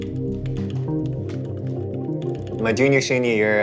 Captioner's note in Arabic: نقر على لوحة المفاتيح